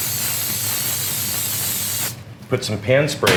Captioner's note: spraying